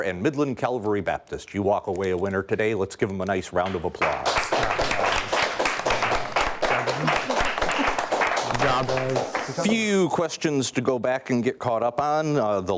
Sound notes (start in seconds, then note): 4.0 audience applauding